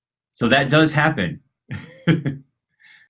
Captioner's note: laughs